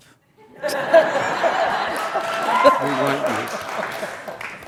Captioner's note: laughter and cheers